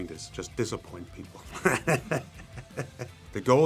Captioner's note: laughs